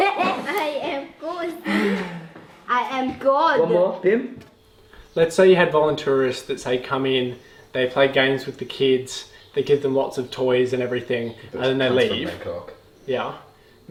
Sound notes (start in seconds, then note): 1.6 sighs; 3.4 foreign language